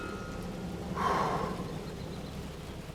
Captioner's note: sighs